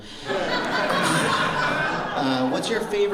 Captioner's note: laughter